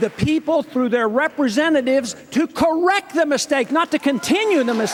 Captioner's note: cheers